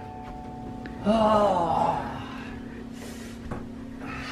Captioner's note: sighs